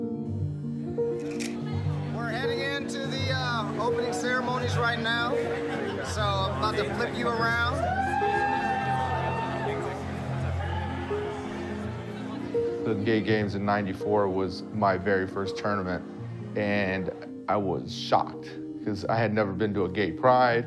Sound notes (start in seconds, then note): 8.1 people cheer